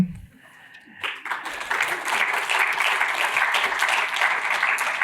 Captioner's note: applause